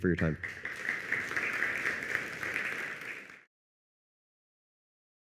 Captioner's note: applause